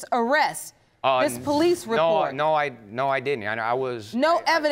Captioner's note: stammering